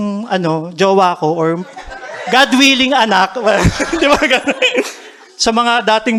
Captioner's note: chuckles